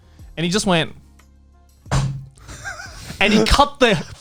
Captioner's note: hand slams table